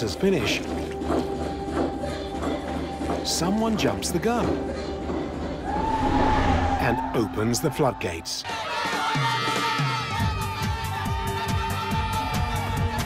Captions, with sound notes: Before the dancers finish... someone jumps the gun... -[men cheering] -...and opens the flood gates. [shouting, laughing]